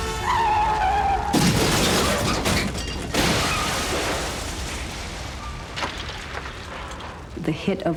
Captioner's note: screeching wheels; cars crashing